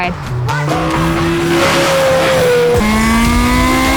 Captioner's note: engine revving